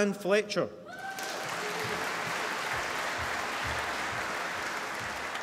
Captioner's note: applause